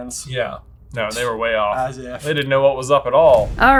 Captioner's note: scoffs